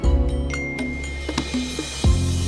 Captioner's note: phone chimes